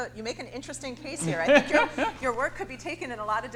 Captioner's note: laughs